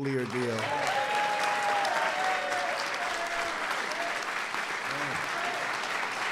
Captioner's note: applause